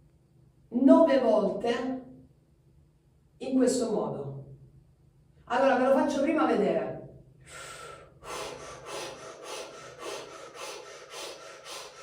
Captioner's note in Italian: sbuffare; sospiri